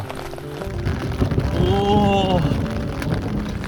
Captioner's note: the rain grows heavier, accompanied by thunder